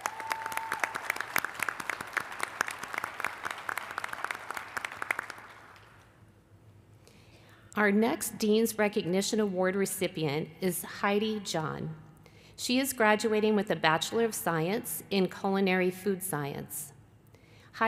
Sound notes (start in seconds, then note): 2.4 applause